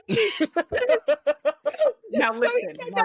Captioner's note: laughing